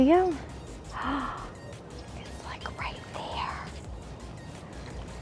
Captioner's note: gasps